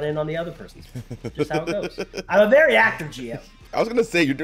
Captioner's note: laugh